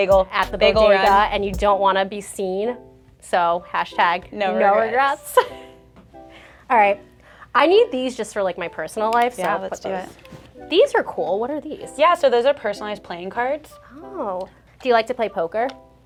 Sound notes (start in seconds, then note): 5.2 chuckles